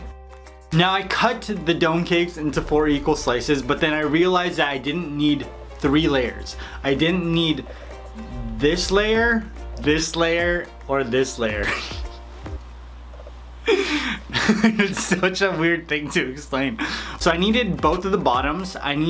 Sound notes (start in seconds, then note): 11.8 laughs